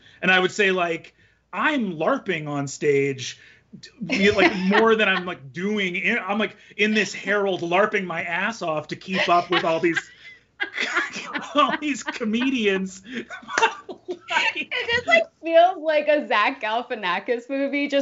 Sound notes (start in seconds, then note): 13.3 both laughing